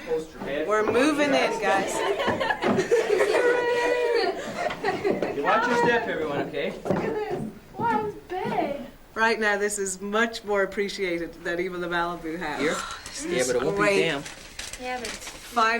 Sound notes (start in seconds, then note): 3.2 kids giggling